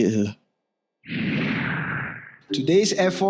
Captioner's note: scene whooshes